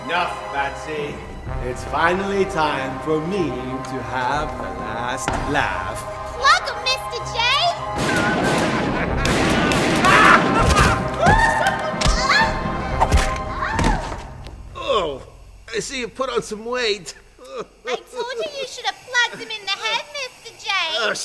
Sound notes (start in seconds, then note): 7.9 gunshots booming; 8.0 Joker laughing; 11.8 Harley thudding; 11.8 punches thudding